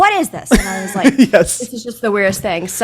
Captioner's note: laughs